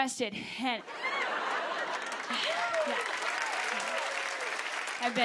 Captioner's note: laughter, cheers, applause